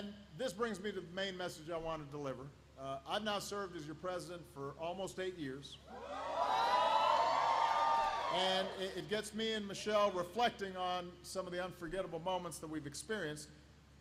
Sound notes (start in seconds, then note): 6.4 applause